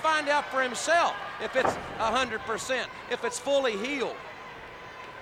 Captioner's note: blows thudding